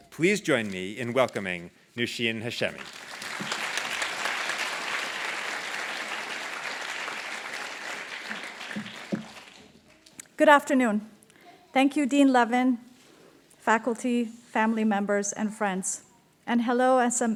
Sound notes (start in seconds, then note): 9.3 applause